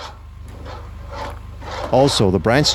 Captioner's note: metal scrapping